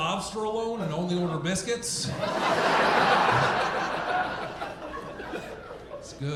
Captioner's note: audience laughing